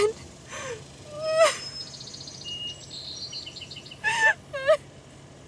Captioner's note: Maddie sobbing